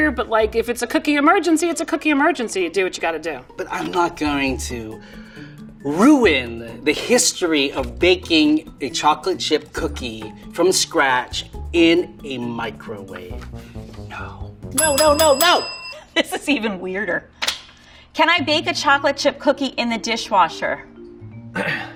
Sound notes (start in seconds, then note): 14.7 bell ringing